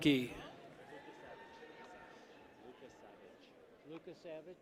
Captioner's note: people cheer